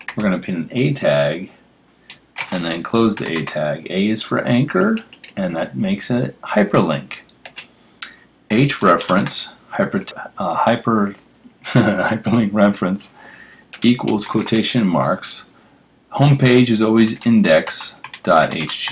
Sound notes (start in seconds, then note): 8.9 laugh